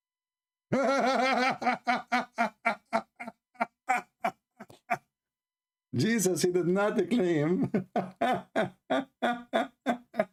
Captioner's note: Ketawa